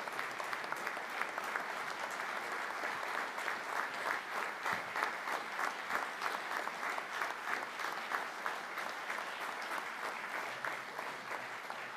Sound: applause

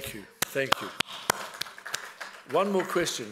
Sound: applause

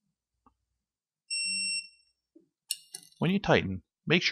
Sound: beep from Torque wrench

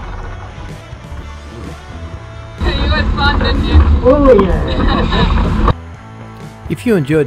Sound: laughter

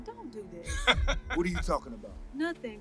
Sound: laughing

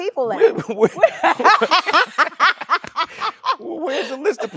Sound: both laughing

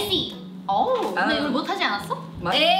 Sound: speaking in Korean

